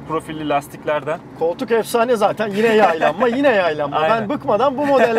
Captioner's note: laughings